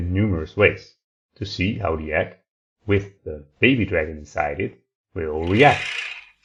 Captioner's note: dragon-like purring sound